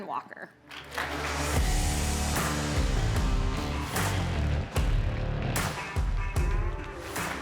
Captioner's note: audience applauding; upbeat music